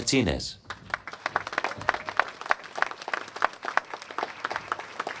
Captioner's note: applause